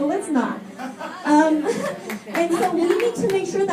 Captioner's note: laughter and clapping